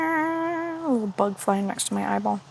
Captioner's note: mimics A Bug